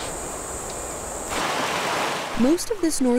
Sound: bird cawing; water rushing

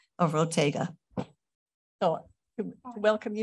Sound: pause

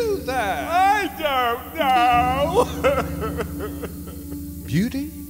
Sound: sobbing

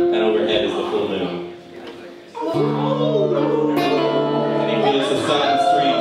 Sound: audience: Howls

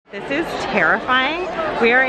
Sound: people talking

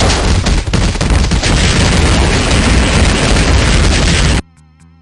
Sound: rocket firing

